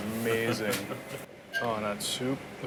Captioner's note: laughs